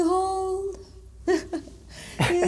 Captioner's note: laughing